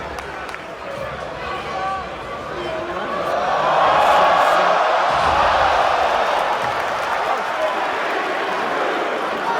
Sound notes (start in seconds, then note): 5.3 crowd cheers